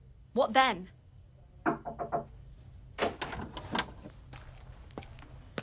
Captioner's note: knocking at door